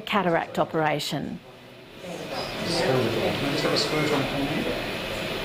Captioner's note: chatter